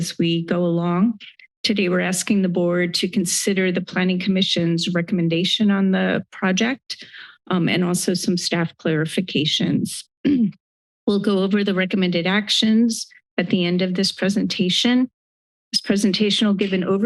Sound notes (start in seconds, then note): 10.2 clears throat